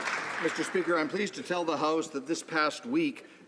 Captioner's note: some Applause